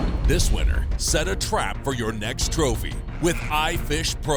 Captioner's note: voiceover